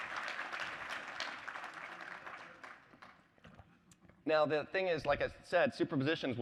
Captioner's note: applause